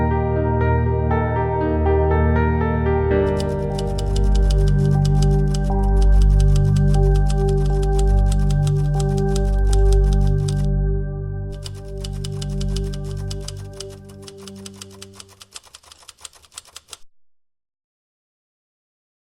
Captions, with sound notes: (somber music) (typing) Last year alone, TriStar Skyline assessed over 5,600 patients for behavioral care; 4,000 of which were admitted for care.